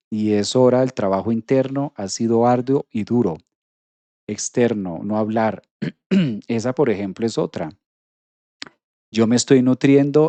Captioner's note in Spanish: carraspeo